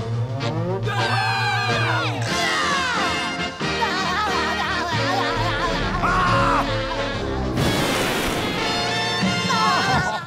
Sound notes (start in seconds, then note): 0.5 screaming; 3.8 laughing; 6.0 screaming; 8.6 laughing